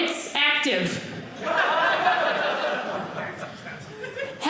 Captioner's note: audience laughing